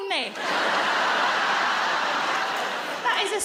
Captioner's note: audience laughs